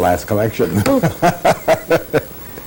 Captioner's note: laughter